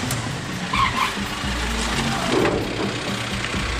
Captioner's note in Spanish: sonido de motor de vehículo y neumatios chillando